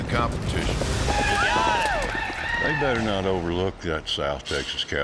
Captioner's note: cheering